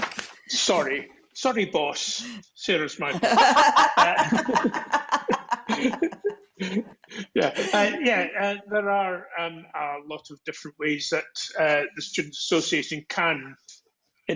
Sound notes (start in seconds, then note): 3.0 laughter